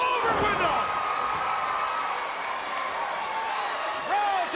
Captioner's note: crowd cheers